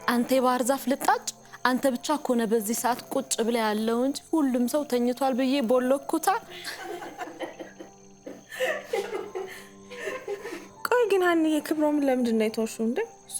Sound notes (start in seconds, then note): 6.6 laughter